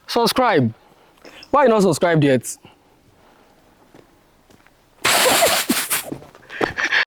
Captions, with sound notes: SUBSCRIBE, WHY HAVE YOU NOT SUBSCRIBED YET? [LAUGHS LIKE A KID]